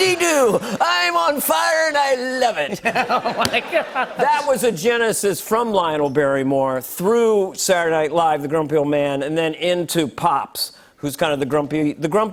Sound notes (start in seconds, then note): 2.7 laughter